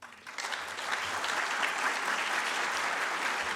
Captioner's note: audience claps